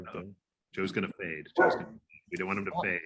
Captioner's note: speaking faintly